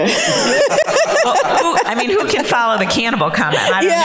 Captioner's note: panelists laughing